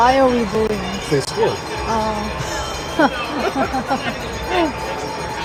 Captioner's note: laughter